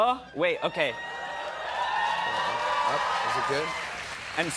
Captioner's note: cheers and applause